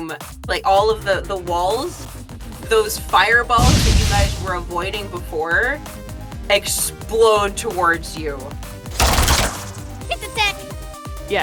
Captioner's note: explosion